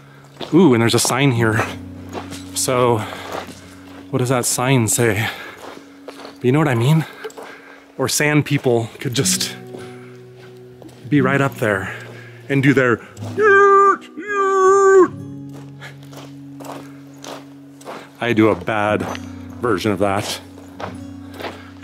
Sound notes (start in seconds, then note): 13.8 imitates Tusken Raiser noise